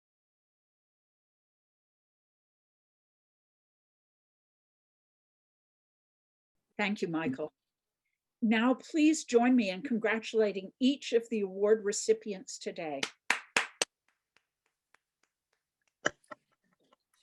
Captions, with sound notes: - Thank you, Michael. Now please join me in congratulating each of the award recipients today. (clapping)